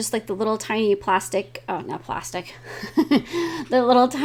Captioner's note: laughing